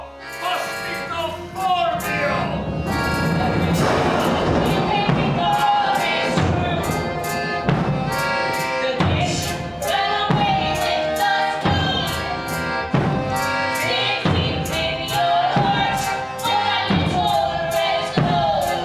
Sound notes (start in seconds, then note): 3.6 thunder and lightning